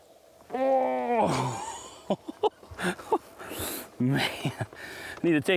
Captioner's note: laughing